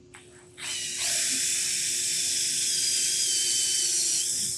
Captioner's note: drill whirring